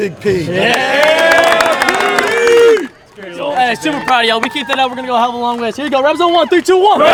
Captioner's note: cheering